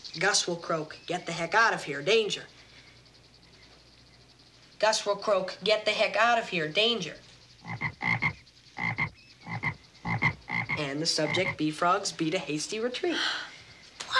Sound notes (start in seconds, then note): 7.7 Gus croaks